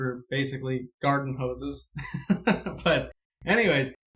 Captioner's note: laughing